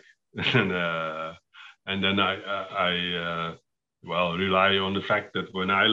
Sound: laughs

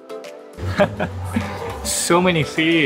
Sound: chuckles

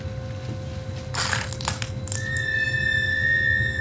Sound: glass cracking

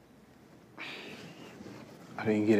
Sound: sighs

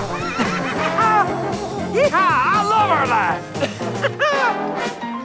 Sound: laughs

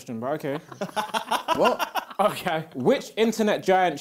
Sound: both laughing

